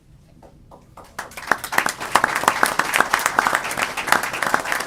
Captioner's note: applause